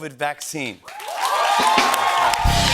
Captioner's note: cheers and applause